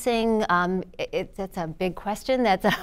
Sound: laughter

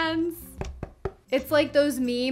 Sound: knocks

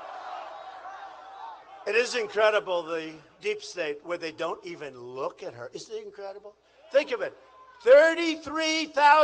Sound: crowd chantg

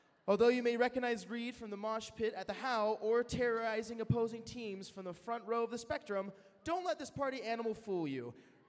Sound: none

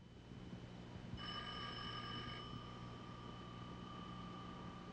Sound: phone ringing

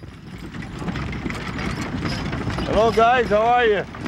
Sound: hooves pounding

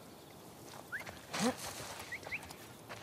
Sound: strange whistles

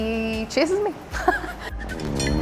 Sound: laughs

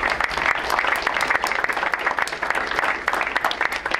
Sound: crowd applauds

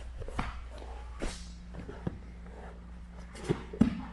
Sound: hand slapping

